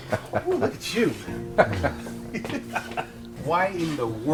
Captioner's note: laughs